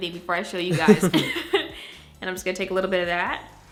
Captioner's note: laughs